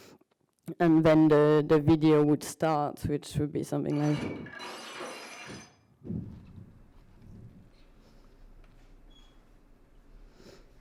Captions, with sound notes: and then the video would start which would be something like (glass shattering)